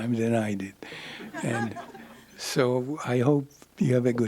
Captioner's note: laughter